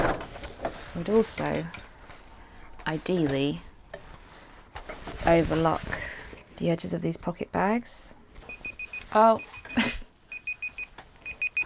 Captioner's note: alarm beeping